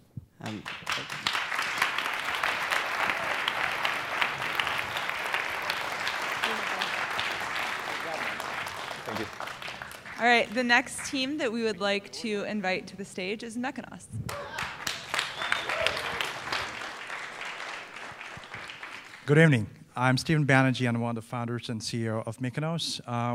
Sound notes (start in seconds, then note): 0.2 applause; 14.2 applause